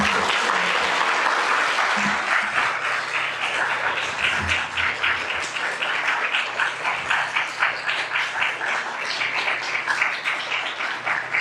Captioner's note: applause